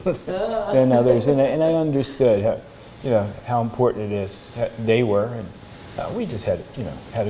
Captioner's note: laughter